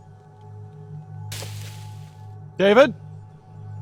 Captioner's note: leaves rustling